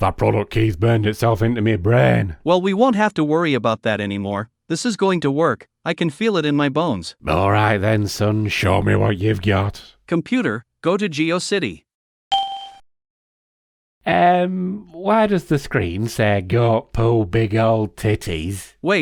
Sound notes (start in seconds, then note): 12.3 ding